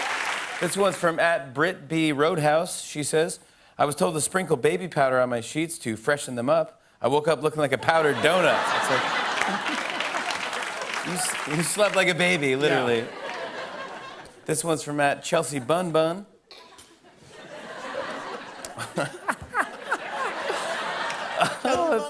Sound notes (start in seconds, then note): 7.9 laughter and applause; 12.6 laughter; 16.7 laughter; 17.3 laughs